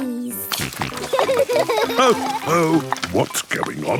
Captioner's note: snorting; laughter